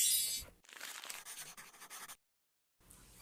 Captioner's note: more paper sounds